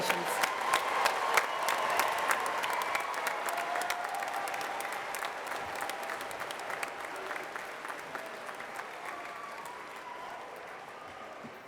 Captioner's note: applause